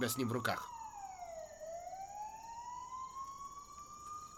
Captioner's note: crickets chirping, wailing continues